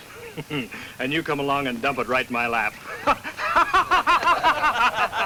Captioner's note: laughs